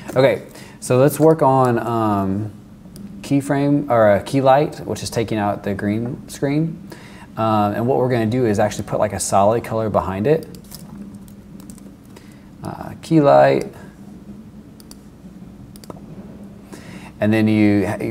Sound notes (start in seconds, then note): none